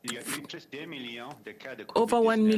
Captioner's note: speaking French